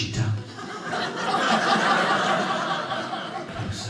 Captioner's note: audience laughing